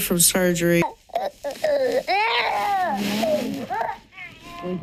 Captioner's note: crying